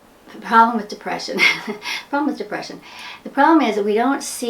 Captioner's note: laughs